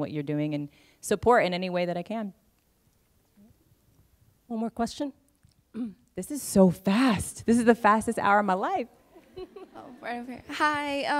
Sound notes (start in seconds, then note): 9.2 laughter